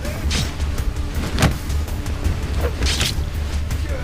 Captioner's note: thudding